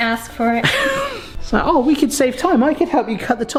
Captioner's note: laughs